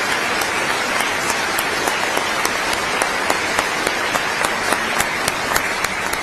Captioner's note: applause